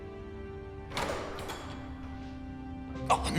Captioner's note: door opening